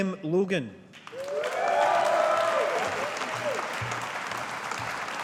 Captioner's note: audience applauding